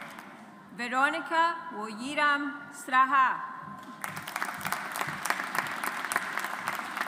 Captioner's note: audience applauds